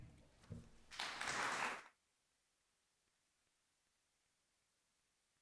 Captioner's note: audience applauds